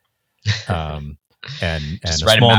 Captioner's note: chuckling